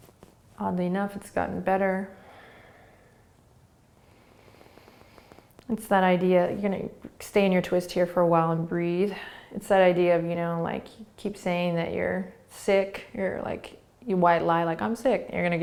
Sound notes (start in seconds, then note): 2.1 breathing